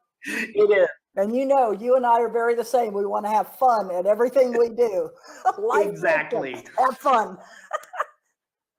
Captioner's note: giggles